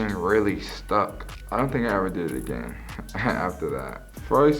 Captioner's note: laughs